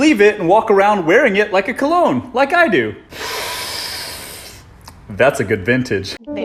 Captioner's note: sniffs